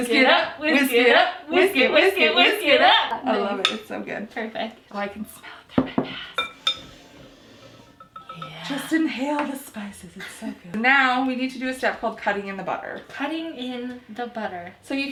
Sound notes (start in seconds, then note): 0.0 laughing; 6.8 sniffing